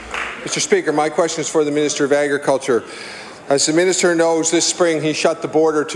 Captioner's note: applause